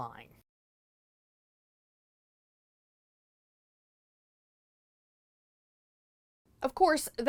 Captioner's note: no Sound Present